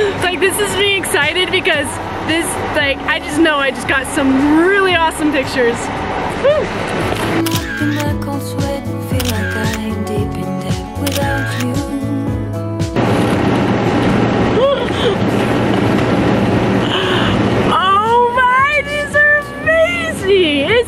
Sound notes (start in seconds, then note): 9.1 camera shutter; 12.8 car engine in the background